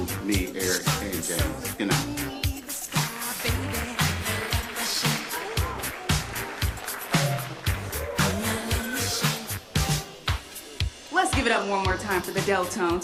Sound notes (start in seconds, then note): 2.6 applause